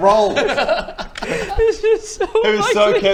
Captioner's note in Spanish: entre lágrimas